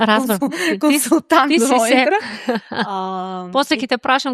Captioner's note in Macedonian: смеа